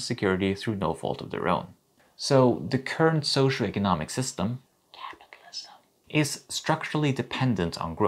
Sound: whisper* capitalism *whisper

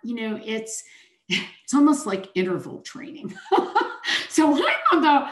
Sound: chuckles

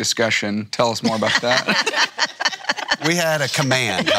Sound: group laughs

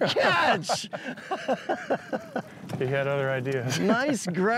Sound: both laughing

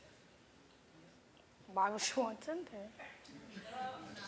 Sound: laughs

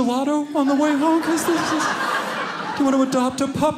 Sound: audience laughing

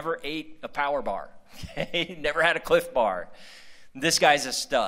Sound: laughter

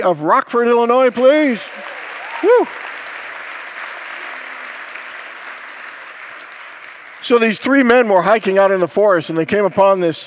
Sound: congregants applaud

